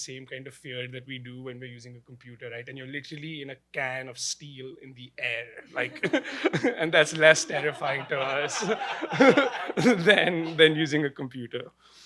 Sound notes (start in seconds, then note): 7.0 laughter; 9.7 laughs